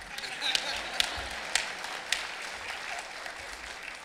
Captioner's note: laughing